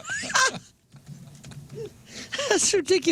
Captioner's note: laughing